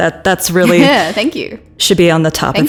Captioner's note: chuckles